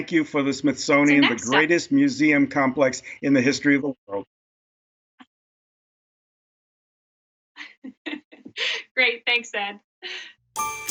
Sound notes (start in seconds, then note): 5.3 chuckles; 10.5 bright upbeat music